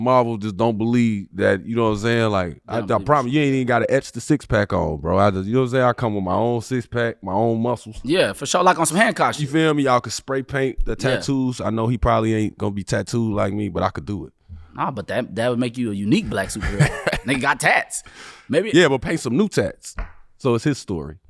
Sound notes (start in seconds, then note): 16.2 laughing